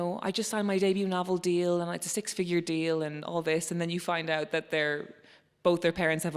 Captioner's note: none